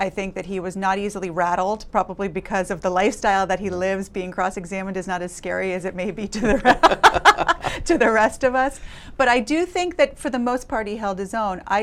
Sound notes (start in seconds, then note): 6.4 laughing